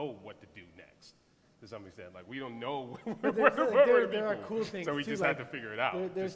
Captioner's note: laughs